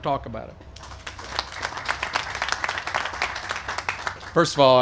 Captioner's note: applause